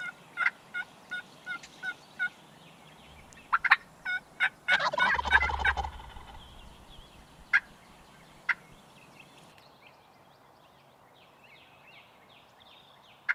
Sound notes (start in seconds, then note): 5.6 turkey gobbles